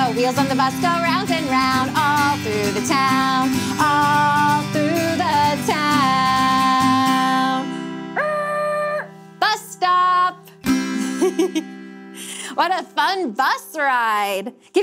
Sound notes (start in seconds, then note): 10.9 chuckling